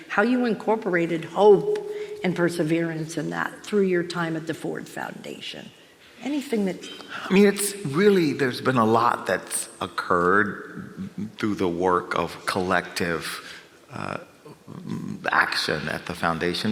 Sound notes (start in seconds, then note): none